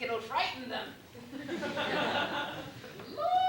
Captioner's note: laughter